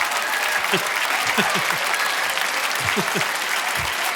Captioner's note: audience applauding; audience laughing; laughs